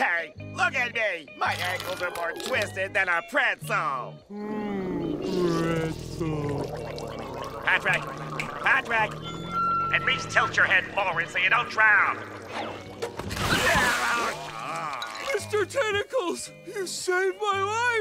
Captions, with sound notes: Look at me! My ankles are more twisted than a pretzel. Mmm, pretzel. [gurgling] Patrick? Patrick! At least tilt your head forward so you don't drown! [splashing] Mr. Tentacles! You saved my life!